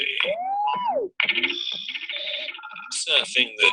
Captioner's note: electronic noises